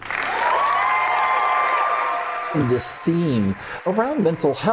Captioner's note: ends, then wild applause